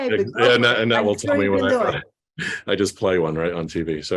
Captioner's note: murmurs